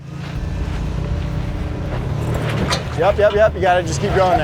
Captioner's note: engine hums